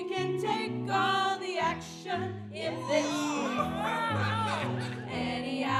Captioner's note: pirates cheering